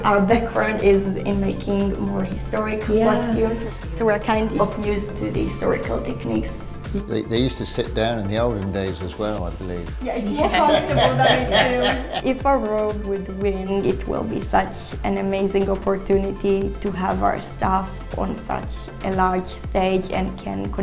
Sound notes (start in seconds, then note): 10.3 laughter